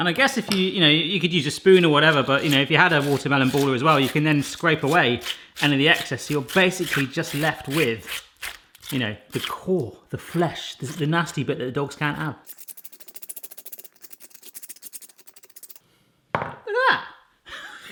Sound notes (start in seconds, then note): 12.7 scraping; 17.7 laughs